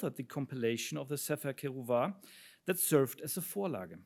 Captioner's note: speaks in foreign language